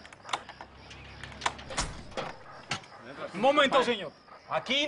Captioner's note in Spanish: Ruido al abrir